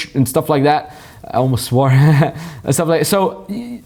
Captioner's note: chuckles